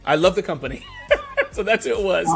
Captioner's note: laughing